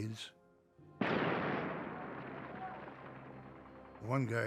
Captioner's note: explosion